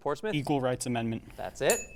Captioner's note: ding sound